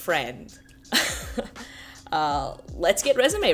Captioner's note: giggling